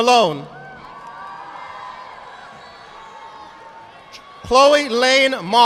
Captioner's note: audience clapping